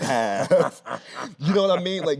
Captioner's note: Anthony laughing